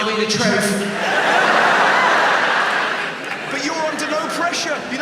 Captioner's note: audience laughs